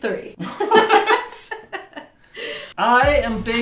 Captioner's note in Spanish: ambos ríen